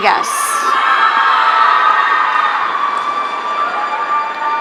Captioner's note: audience cheering